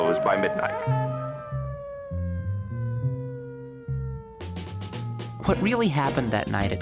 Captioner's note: sirens